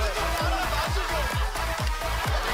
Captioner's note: laughter